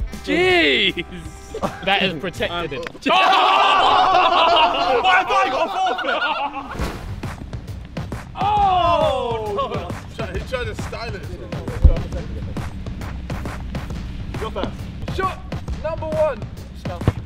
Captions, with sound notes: - Geez, that is protected. (laughter) - Why have I got a forfeit! (upbeat music) - Oh! - He's trying to style it. (whispers amongst themselves) - You're first. - Shot number one!